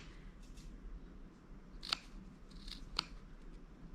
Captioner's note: scissors snipping